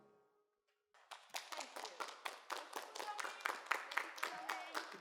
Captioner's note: students applauding